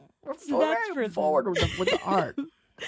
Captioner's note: chuckles